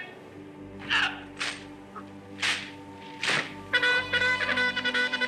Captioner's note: person shouting; weapons clicking; trumpet blaring